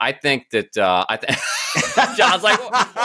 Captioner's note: laughter